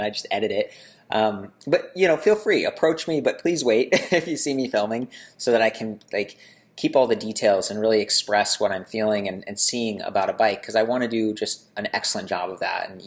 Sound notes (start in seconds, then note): 4.2 laughing